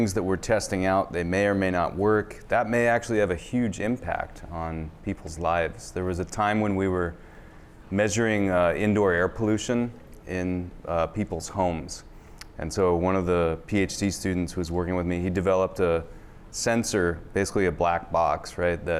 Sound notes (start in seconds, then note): none